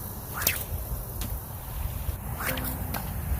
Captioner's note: splash; sling whips; splash; sling whips; splash